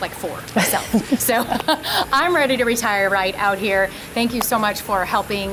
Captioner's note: laughing